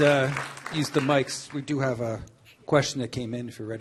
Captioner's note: applause